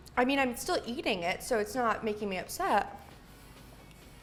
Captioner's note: none